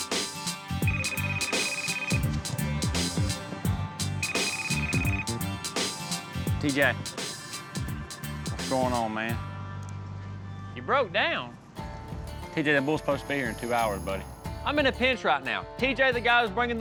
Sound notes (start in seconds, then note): 0.7 cell phone rings